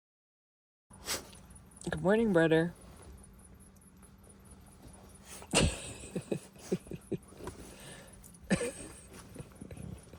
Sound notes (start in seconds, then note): 5.8 laughing